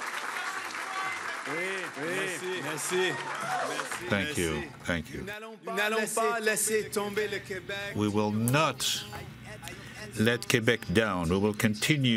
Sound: cheering

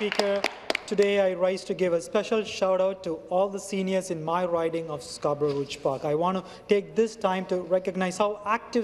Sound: applause

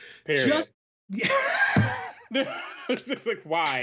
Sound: laughs

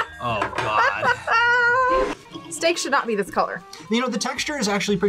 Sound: laughs

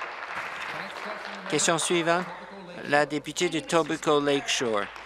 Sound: applause

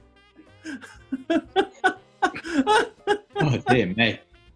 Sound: laughter

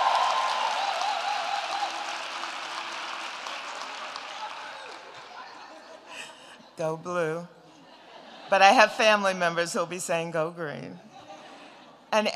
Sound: cheers and applause

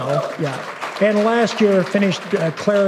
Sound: applause

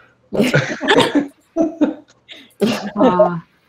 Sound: all laughing

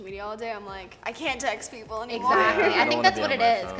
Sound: chuckles

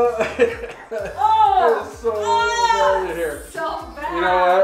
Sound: moaning

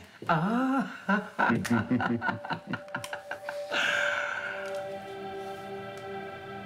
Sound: laughs

